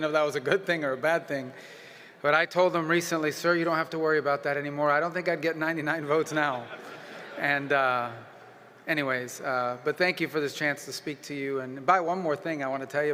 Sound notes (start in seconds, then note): 6.2 laughter